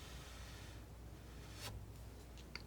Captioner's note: scratching